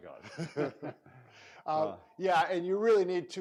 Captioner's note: laughing